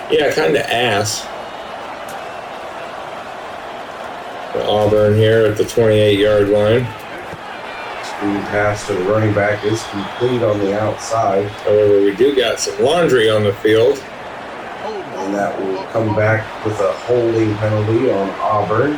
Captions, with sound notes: Yeah kind of ass. [Crowd Noises] Auburn here at the 28 yard line. [Crowd Noises] Speed pass to the running back is complete on the outside. However, we do got some laundry on the field. [Crowd Noises] And that will come back with a holding penalty on Auburn.